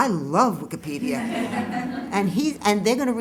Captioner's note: laughter